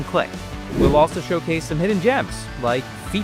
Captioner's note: air whooshing